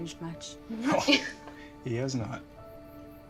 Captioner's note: laughing